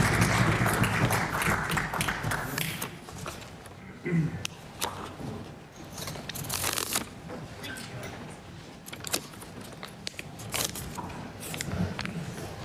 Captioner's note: applause